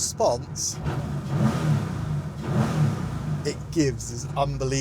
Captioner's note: engine revs